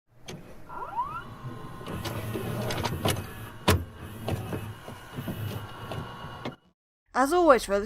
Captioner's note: VHS noises